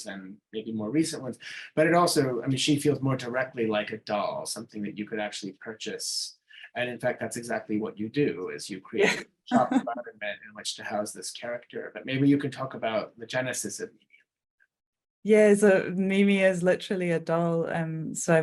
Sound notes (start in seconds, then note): 6.4 chuckling